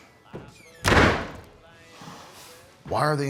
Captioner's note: door thuds